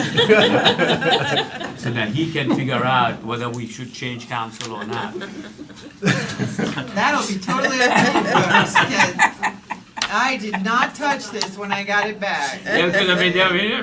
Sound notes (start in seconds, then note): 7.4 laughter